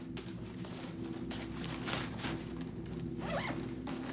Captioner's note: backpack rustling; zipper rattling